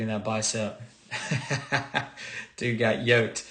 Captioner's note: laughs